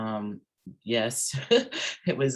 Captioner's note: laughs